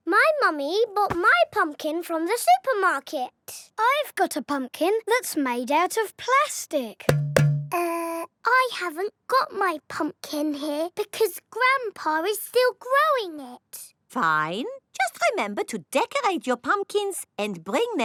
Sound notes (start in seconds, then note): 7.1 hollow clunking